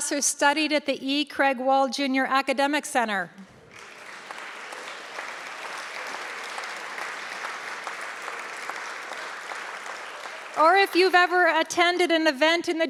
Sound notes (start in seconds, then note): 3.4 audience clapping